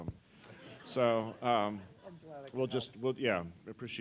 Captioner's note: laugh